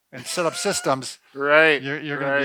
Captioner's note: laughs